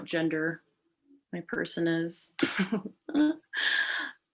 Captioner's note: awkward giggle